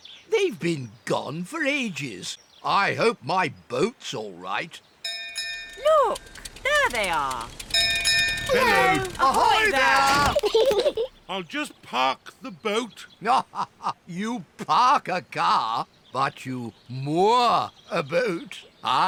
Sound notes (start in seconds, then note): 5.0 bell rings; 8.4 peppa and george giggle; 13.2 laughs